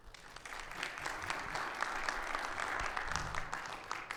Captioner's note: audience clapping